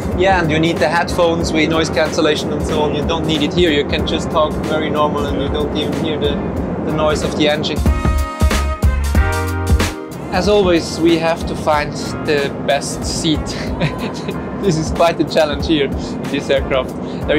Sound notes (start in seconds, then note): 8.2 upbeat music; 13.5 laughing